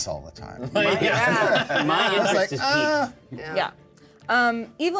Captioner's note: laughter